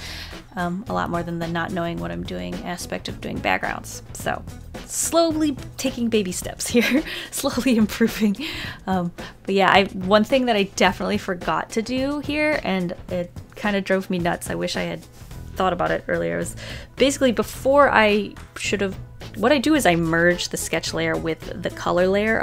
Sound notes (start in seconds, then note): 7.1 laughs